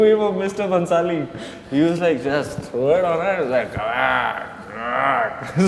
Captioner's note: roaring